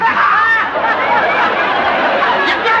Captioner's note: laughter